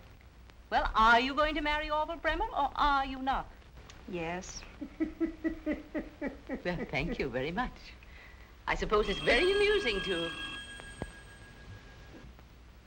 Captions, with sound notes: WELL, ARE YOU GOING TO MARRY ORVILLE BREMMER OR ARE YOU NOT? YES. ( Barney chuckles ) WELL, THANK YOU VERY MUCH. I SUPPOSE IT'S VERY AMUSING TO-- ( clock dings )